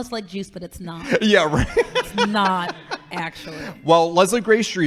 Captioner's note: laughing